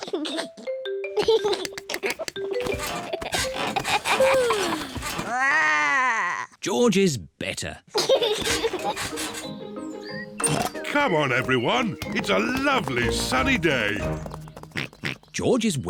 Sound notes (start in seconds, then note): 1.1 giggles; 4.8 growls; 5.2 yawns; 7.9 giggles; 12.0 oinks